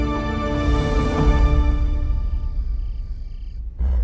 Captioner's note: crickets chirping